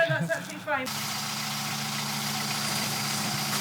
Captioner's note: engine noise